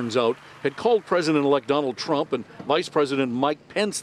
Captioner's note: cheers and applause